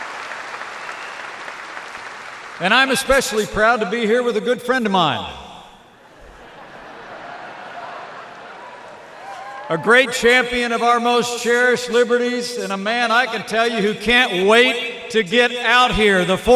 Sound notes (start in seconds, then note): 0.0 applause; 6.0 laughter